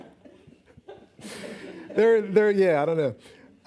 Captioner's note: laughing